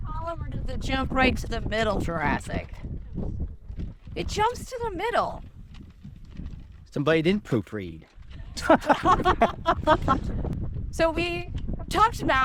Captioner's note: A lot of laughter